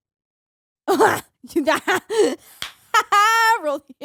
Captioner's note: laughing